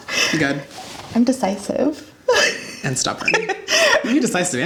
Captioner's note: laughs